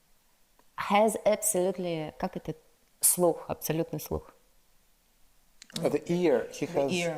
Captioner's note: speaks in foreign language